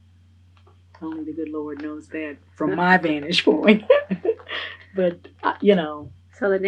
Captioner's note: laughs